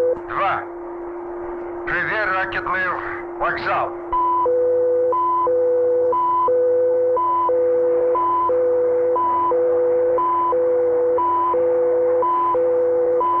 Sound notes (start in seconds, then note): 0.1 soldier speaking in Russian; 3.8 machinery beeping and whirring